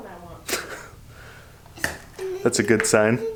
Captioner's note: chuckles